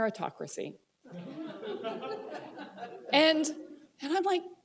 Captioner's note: laughter